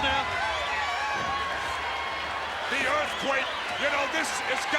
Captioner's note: applause